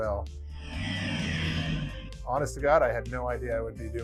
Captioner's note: boat engine roaring